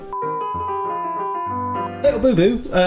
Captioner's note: lively piano music; test pattern tone beeping